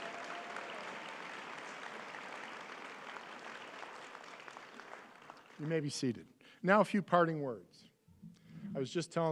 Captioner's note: applause